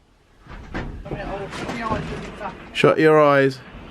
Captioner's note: garage door thumping